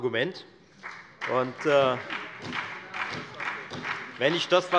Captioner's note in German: Beifall bei der FDP und bei Abgeordneten der SPD